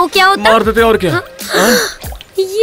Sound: gasps

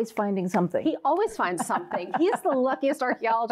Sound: laughs

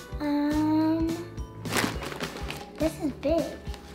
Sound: none

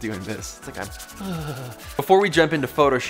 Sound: whimpers

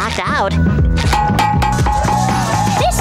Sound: knocking

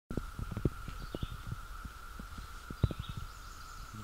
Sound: birds chirping

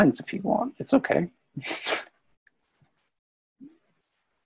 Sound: laughs

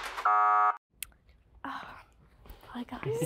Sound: buzzer

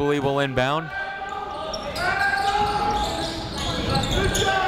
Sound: chatter

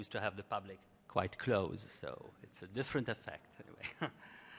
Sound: laughs

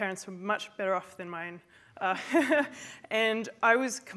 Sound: laughs

